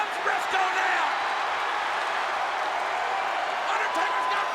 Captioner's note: audience cheers